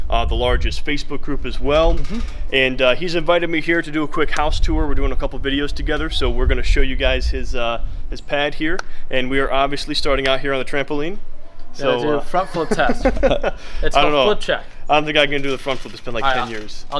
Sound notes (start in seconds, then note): 12.3 laughing